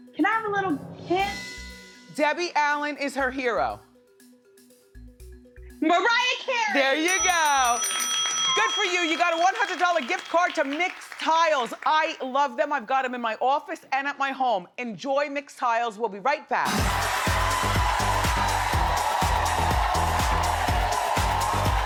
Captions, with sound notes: - Can I have a little hint? - Debbie Allen is her hero. - Mariah Carey! (bell dinging) - There you go! Good for you, you got a 100 dollar gift card to Mixtiles. I love them, I've got 'em in my office and at my home. Enjoy Mixtiles, we'll be right back. (energetic music) (audience cheering)